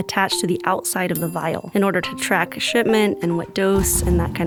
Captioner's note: bell ding